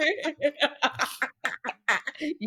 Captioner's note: laughing